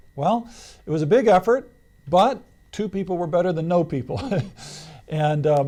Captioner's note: laughs